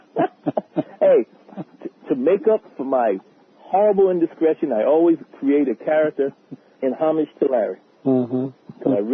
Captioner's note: laughter